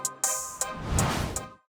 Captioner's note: logo swooshing out